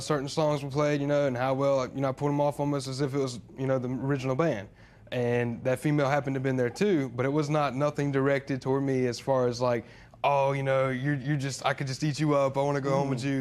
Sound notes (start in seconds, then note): none